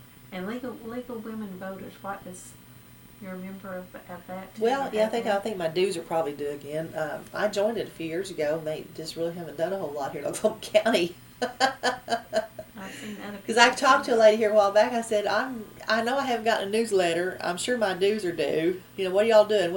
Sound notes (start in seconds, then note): 11.4 laughs